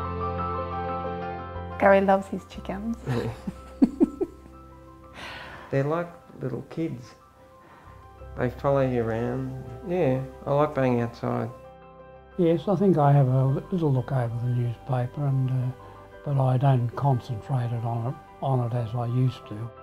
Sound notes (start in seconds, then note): 3.0 laughs